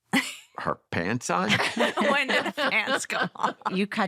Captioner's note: laughter